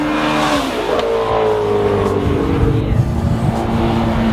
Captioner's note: car engine